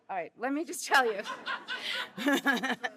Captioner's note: laughter